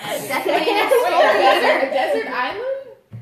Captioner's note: laughter